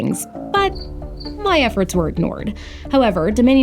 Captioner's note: crickets